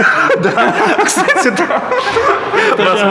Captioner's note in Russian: смех